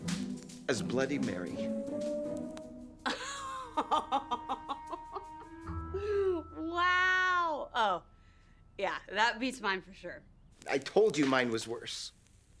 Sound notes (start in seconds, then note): 3.0 laughing